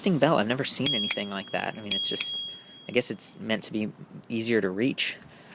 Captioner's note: bell ringing